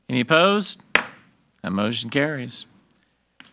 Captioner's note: gavel bangs